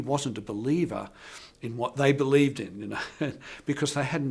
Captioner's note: laughs